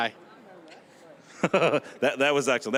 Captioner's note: both laughing